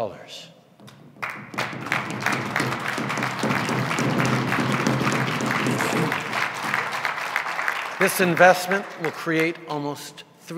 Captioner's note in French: Sons de tambours et applaudissements